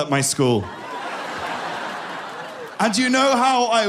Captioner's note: people laughing